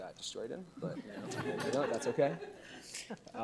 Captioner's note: audience laugh